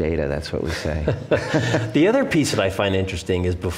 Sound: both laugh

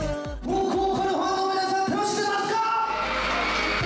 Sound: the concert starts with fans' cheers

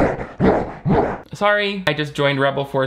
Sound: lion growls

